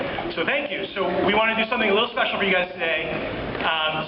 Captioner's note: none